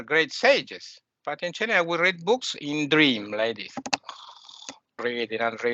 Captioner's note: sounds of snoring